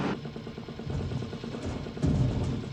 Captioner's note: pump vibrating